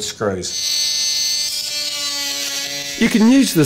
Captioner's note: buzzing